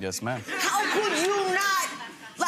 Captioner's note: audience laughs